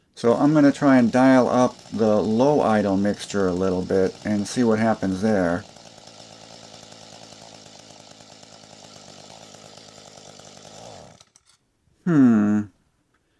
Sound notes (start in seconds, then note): 5.9 engine idling sounds; 11.3 silence